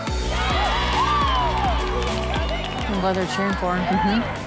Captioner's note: cheering